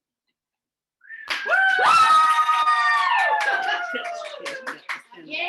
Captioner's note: crew cheering